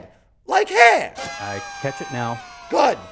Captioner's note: party horn blows